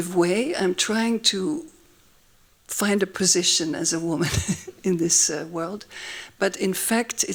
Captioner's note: laughs